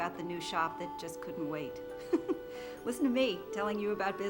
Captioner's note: laughs